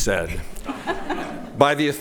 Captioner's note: laughing